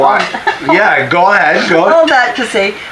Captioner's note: laughter